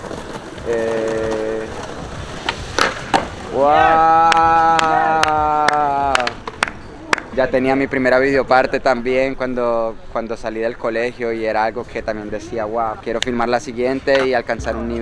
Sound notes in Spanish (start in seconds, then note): 6.1 applause